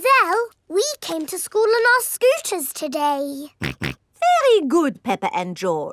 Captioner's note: snorts